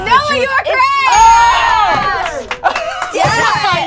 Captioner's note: overlapping chattering